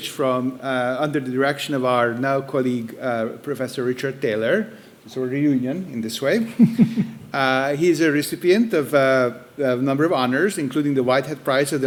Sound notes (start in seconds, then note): 6.4 chuckling